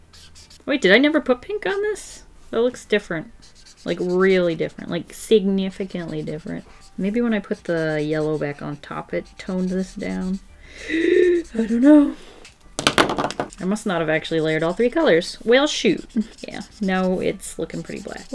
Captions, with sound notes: Wait, did I never put pink on this? It looks different. It's like really different like significantly different. Maybe when I put the yellow back on top, it tones this down [Gasps] I don't know. I must not have actually layered all three colors. Well, shoot. Yeah. No, it's looking pretty black.